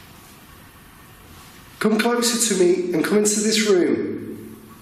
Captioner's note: none